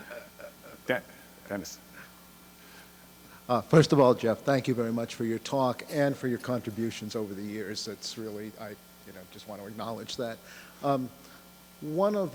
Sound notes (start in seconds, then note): 3.9 voiceover